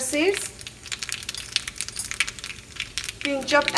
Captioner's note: food sizzles